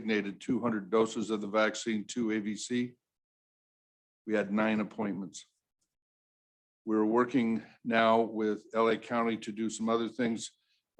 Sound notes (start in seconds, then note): none